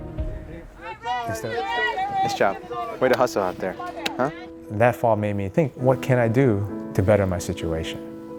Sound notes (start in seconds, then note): 1.3 lively chattering